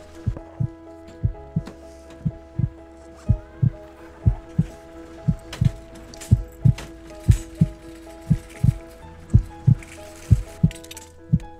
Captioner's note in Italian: Battito del cuore